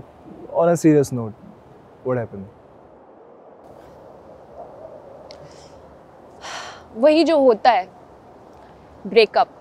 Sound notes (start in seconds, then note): 6.4 sighs